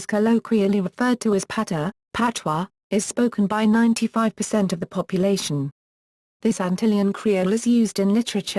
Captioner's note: patois